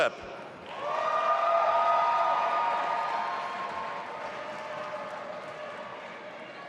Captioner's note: audience applauding and cheering